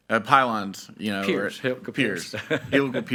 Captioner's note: chuckles